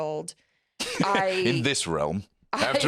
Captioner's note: laughs